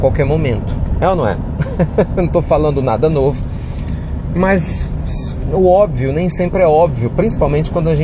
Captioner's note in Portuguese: risos